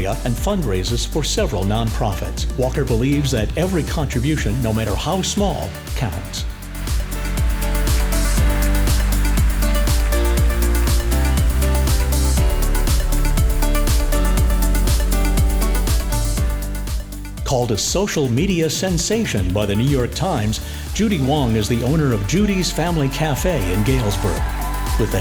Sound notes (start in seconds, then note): 6.8 audience applauding; 8.7 upbeat cheerful music continues